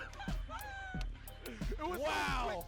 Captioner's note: laughing